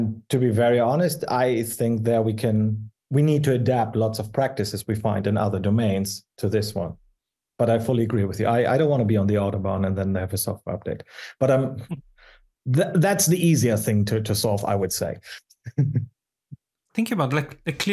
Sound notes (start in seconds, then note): 15.6 chuckles